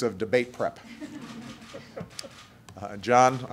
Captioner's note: laughter